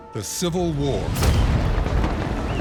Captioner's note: explosion